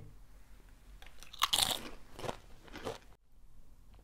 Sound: munches

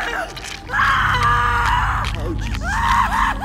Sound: screams

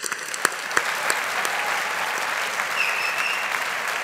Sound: audience applauding

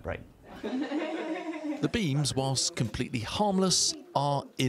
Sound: voice-over

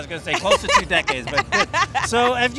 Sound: laughing

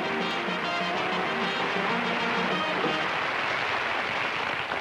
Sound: applause

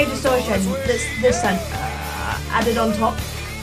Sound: vocalizes

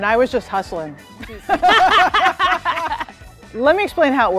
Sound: both laugh

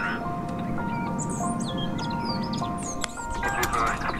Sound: birds chirping

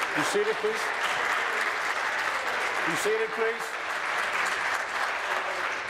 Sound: applause

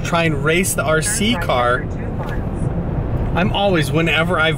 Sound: GPS talking

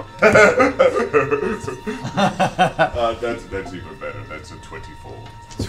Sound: laughs

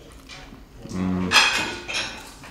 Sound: hums

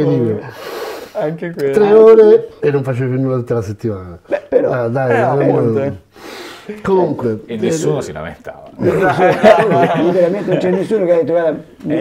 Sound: laughts

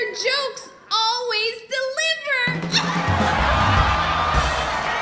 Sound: audience laughing

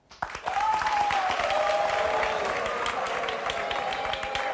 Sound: audience cheers and boos

